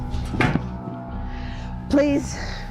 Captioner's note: banging